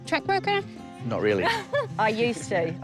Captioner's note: chuckles